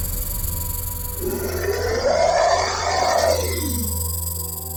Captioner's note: snake growls